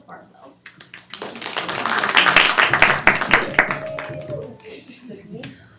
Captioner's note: students clapping